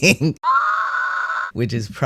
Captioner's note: screaming sound effect